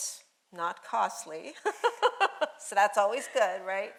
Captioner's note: laughing